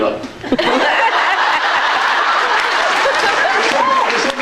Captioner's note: laughs